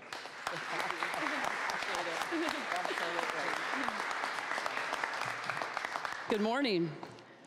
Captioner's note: applause